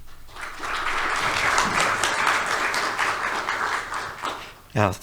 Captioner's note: audience applauding